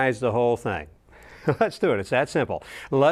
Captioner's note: laughing